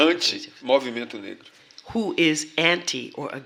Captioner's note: speaking portuguese